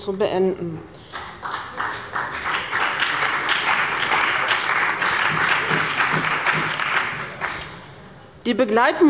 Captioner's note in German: Beifall bei dem BÜNDNIS 90/DIE GRÜNEN und der CDU